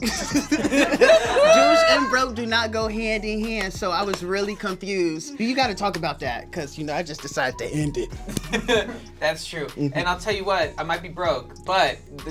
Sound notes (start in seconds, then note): 0.0 all laugh; 8.0 laughs